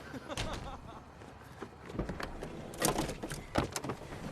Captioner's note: laughter